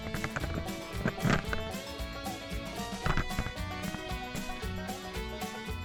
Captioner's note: deer head thumping on camera